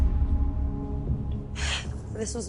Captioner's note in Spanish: Sollozos